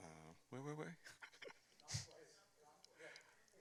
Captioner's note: chuckles